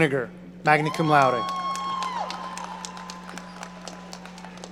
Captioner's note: audience cheering